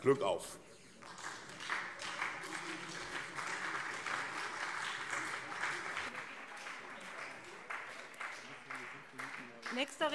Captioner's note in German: Beifall SPD und CDU